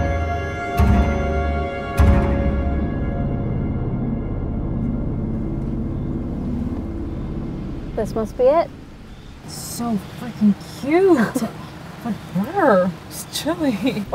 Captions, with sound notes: (car engine humming) - This must be it. - It's so freakin' cute! But brr! It's chilly.